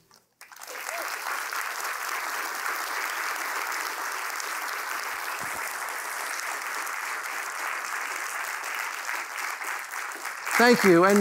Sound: applause

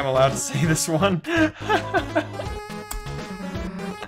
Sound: laughter

